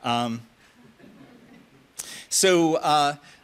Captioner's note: audience chuckles